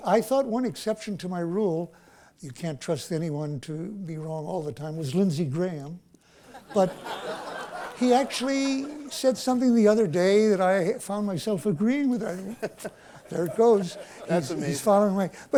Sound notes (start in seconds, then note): 6.5 laughter